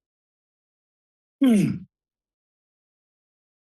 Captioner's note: clears throat